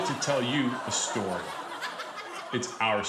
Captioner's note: audience laughs